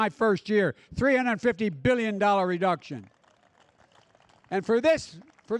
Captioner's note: applause